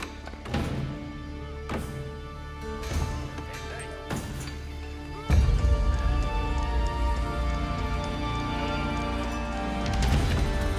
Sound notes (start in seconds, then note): 2.6 hammer clanging